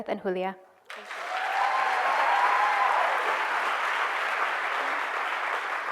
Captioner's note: cheers and applause